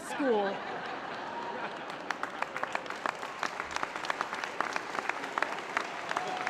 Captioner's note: laughter; applause